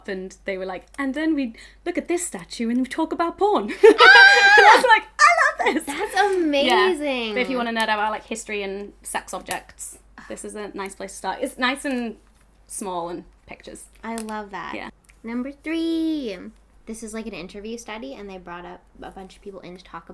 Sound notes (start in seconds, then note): 3.7 laughs; 3.8 cheers